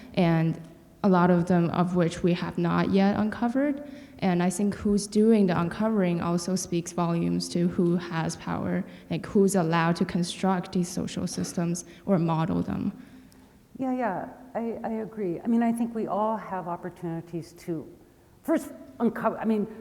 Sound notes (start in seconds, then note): none